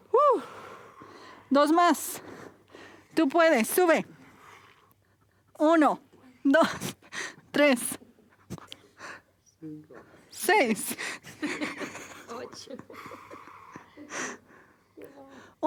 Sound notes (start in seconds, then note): 5.3 se ríe; 7.6 silencio; 11.2 la clase se ríe